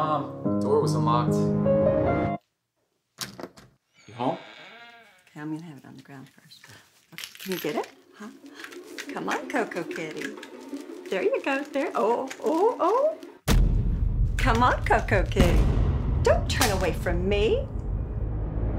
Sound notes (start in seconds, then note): 11.7 encouraging sounds; 18.1 whips